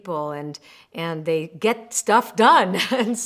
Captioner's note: laughs